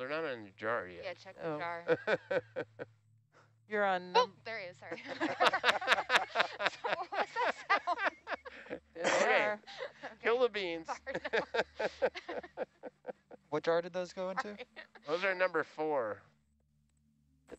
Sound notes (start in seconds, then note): 0.3 male Voice; 4.8 chatter and laughter; 10.7 male Voice